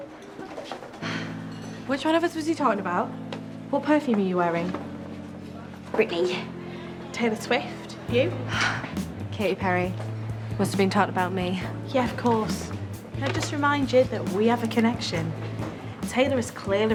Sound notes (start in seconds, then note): 8.4 exhales